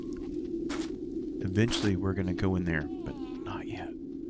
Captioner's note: whispers